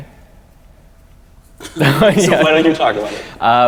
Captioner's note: both men laugh